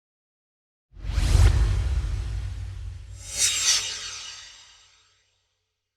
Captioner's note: swoosh